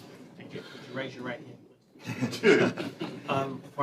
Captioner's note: laughter